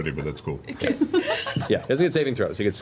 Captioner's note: laughs